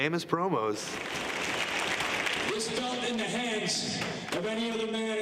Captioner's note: applause